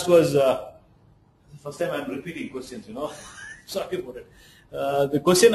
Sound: laughs

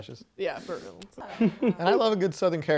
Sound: chuckles

